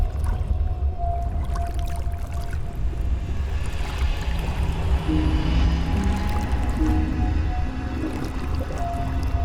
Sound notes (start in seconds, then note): 2.2 water lightly splashing